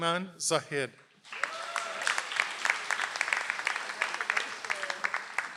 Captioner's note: audience applauds